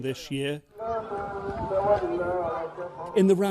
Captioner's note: person chanting in foreign language